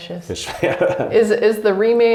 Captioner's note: laughs